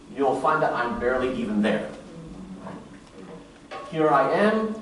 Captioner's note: murmurs